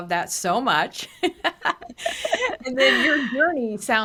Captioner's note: laughing